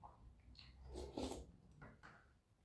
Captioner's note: slurp